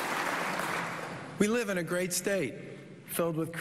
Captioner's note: applause